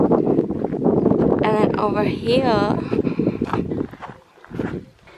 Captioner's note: walking on gravel